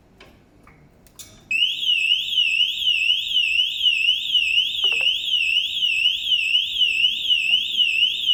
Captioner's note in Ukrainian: звук сирени